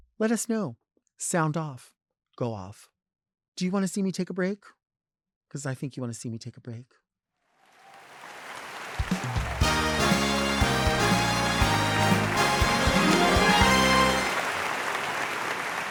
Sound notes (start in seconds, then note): 8.1 audience applauding; 9.4 upbeat music